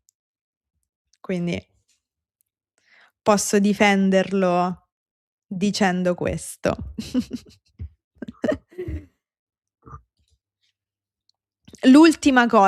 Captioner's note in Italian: risate